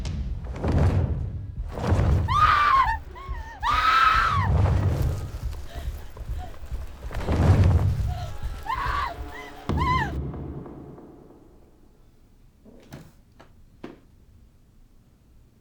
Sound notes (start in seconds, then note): 0.0 feathers flap; 2.2 Connie screams